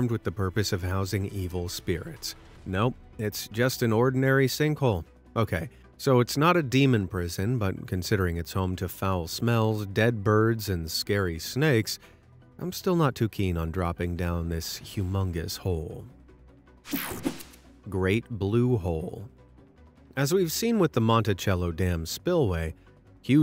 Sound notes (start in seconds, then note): 16.9 logo whooshing